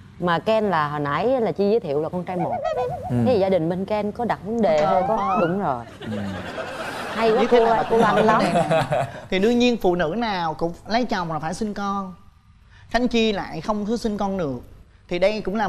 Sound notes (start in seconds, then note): 4.8 laughs